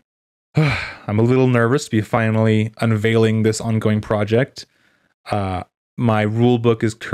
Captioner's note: sigh